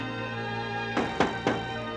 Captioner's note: knocking